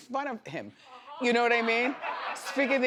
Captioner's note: audience laughs